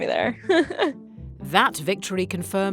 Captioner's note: laughs